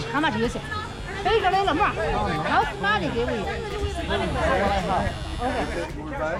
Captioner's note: speaking foreign language